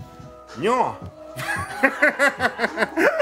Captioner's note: laughs